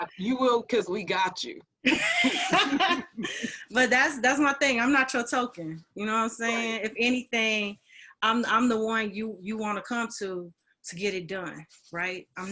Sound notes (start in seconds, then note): 1.8 laughing